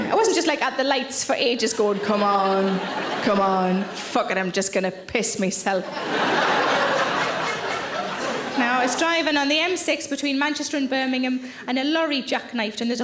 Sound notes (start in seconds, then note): 5.8 audience laughing